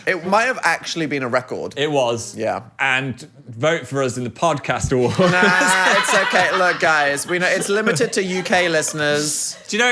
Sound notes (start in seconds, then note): 5.0 everyone laughs